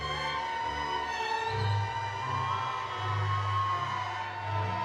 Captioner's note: audience cheering